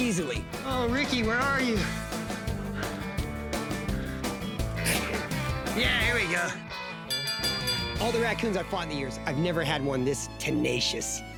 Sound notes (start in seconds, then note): 7.0 bell dings